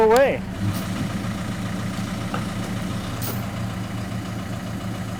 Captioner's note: motor humming